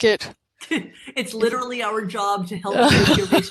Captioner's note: chuckles